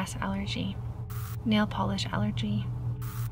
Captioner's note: static crackles; static crackles